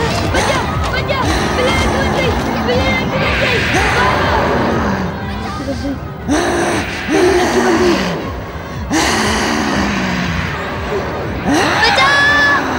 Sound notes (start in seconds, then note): 6.2 grunts